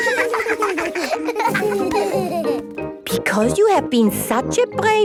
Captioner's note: laughter